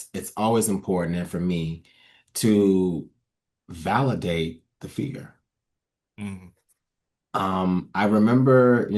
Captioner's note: nods and hums in agreement